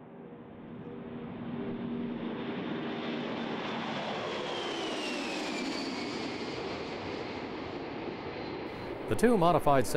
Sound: sound of airplane taking off

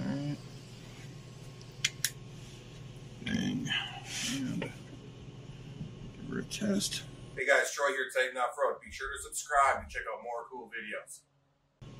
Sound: torch clicks off

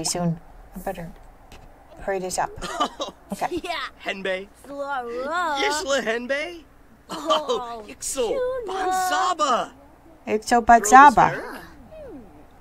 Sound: Simlish

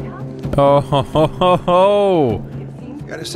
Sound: laughs

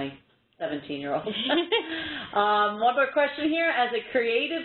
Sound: laughter

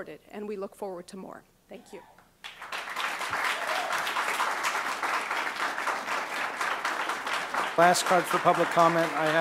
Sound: applause

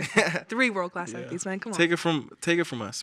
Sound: chuckles

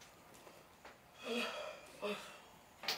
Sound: yawning

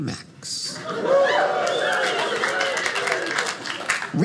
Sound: audience laughing

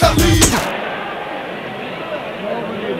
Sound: group chattering

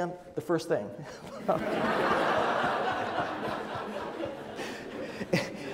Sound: audience laughs

